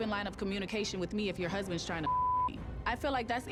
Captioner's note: beep